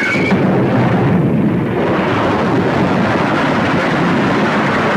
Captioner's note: buildings crashing